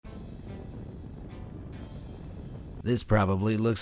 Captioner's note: wind whipping